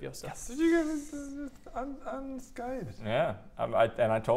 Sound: outraged squeaking

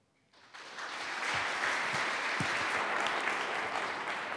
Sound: applause

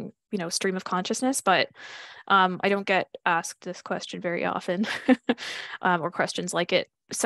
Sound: chuckles

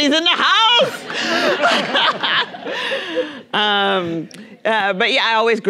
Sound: Nadine laughing; audience laughing

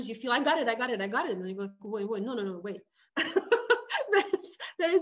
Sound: laughing

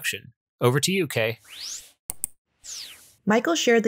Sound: whooshing sound

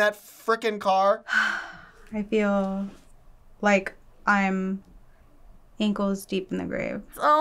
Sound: sighs

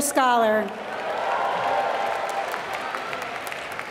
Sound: applause

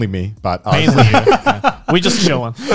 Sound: chuckling

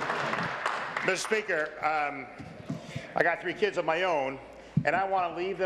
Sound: applause

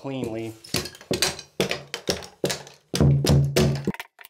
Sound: mallet hitting

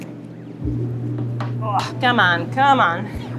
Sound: grunts

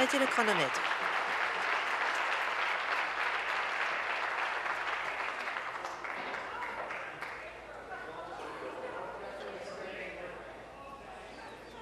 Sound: applause

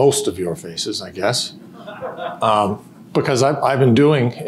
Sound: audience laughter

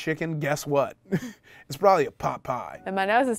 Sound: laughs

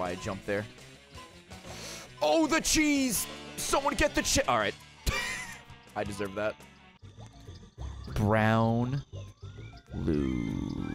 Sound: laughs

